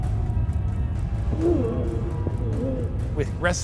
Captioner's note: fighting grunts